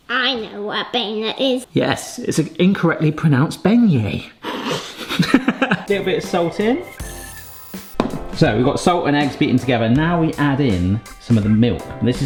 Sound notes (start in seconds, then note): 4.5 both giggle